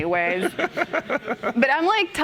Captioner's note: chuckling